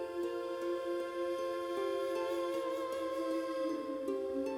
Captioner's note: emotive vocalisation